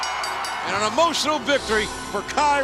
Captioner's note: bell ringing